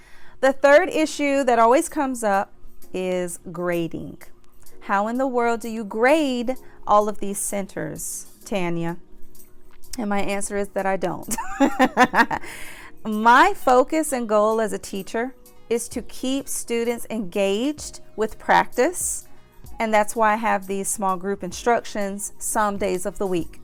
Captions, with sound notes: The third issue that always comes up is grading. How in the world do you grade all of these centers, Tanya? And my answer is that I don't! [laughter] My focus and goal as a teacher is to keep students engaged with practice and that's why I have these small group instructions some days of the week.